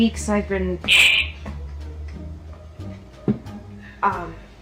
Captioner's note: straw slurping